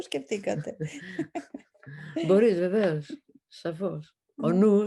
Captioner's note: laughter